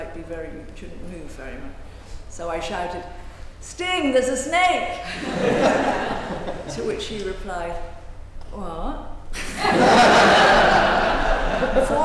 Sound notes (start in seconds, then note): 5.0 laughing; 9.4 laughing